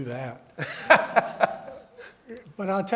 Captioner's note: laughing